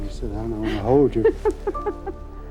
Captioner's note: chuckle